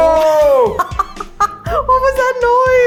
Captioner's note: laughing